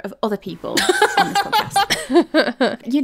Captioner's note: laughing